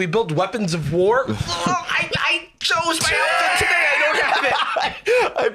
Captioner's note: straining